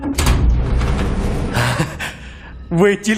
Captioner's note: chuckles